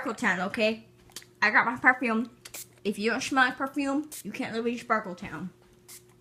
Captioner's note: spritz